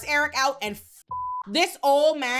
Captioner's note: beep